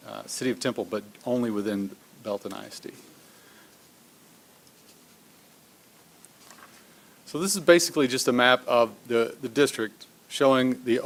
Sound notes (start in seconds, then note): none